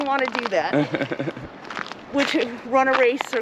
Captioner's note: laughs